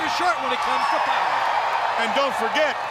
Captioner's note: audience cheers